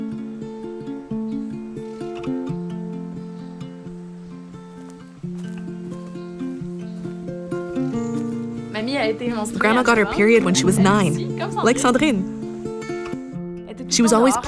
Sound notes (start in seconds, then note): 7.0 speaking French with translation